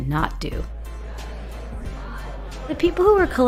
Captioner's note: indistinct conversations